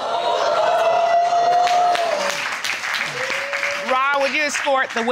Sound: audience reacts

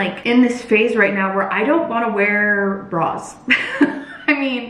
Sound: laughs

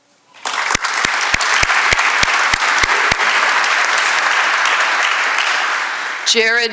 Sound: applause

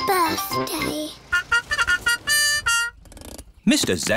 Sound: horn tooting

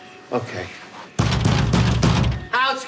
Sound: banging

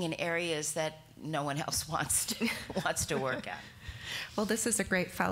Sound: chuckling

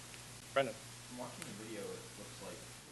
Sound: voiceover

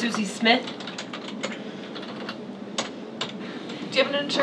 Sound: typing

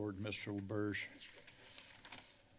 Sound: papers flipping

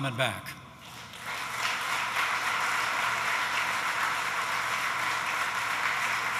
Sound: applause

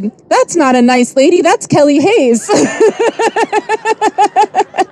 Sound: laughs

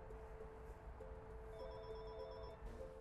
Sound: phone ringing

